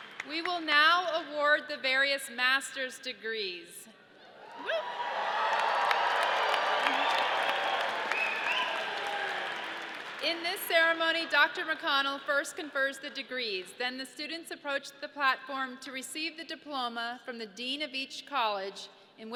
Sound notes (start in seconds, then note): 4.4 audience cheers